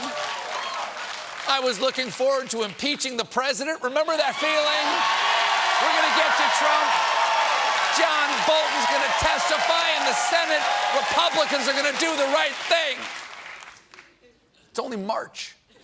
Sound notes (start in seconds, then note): 7.8 cheering